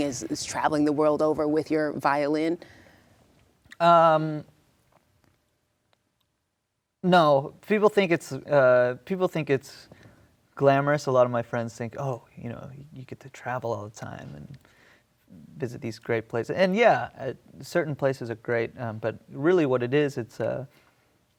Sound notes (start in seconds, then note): none